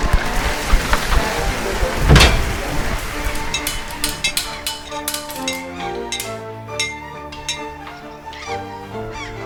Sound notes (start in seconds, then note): 1.9 a trap door opens